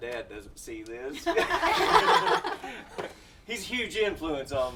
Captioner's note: all laughing